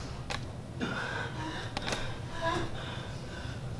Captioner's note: Aaron exhales heavily